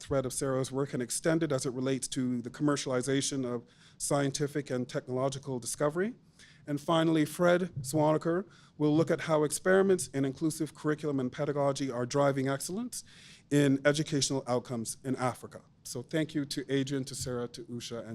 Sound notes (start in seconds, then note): none